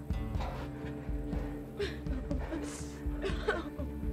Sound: taking deep breaths

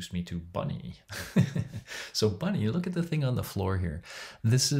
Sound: laughs

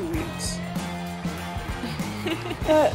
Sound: Giana laughs

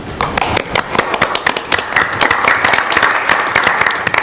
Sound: audience applauding

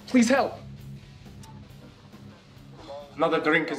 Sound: 9/11 Radio broadcast playing

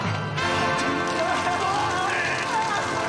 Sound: water Gushing

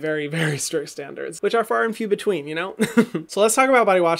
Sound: laughs

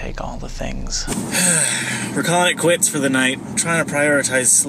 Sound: sighs

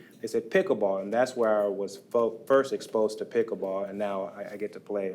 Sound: none

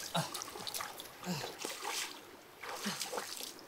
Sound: Aleric struggles, splashing across the river

